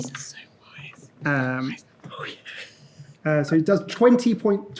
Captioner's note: whispers